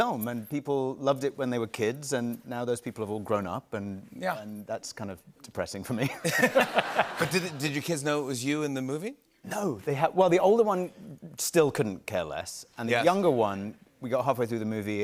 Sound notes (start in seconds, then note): 6.1 laughter